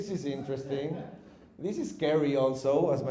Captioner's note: audience chuckles